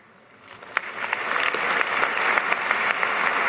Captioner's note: applause